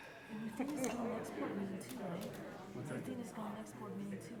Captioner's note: group chattering